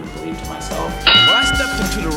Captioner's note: boxing Match Bell